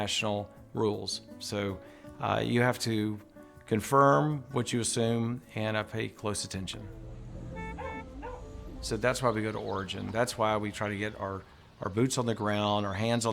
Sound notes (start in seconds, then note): 7.3 car honks; 7.6 dog barking